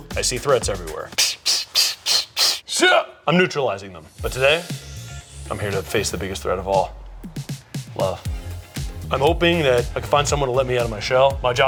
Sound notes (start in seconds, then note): 1.2 imitating bullets whizzing; 1.2 grunting; 8.4 bright rhythmic music continues